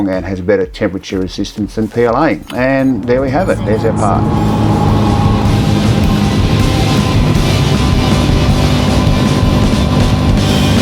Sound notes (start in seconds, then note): 5.2 engine roars; 5.2 rock music